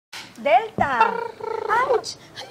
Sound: clapperboard claps; laughs

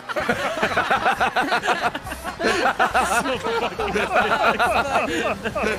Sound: laughs

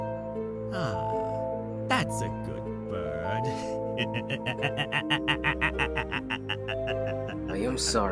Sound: cackles

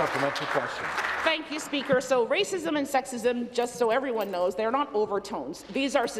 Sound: applause

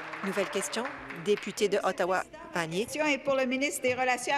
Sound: applause

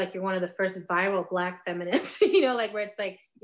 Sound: laughing

